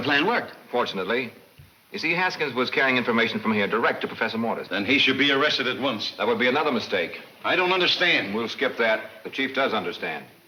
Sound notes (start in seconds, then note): none